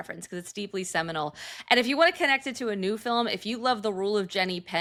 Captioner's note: none